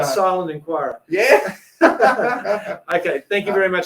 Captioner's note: laughs